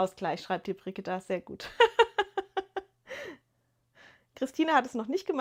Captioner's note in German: gelächter